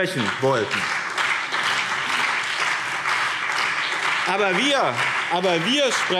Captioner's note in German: Beifall BÜNDNIS 90/DIE GRÜNEN und CDU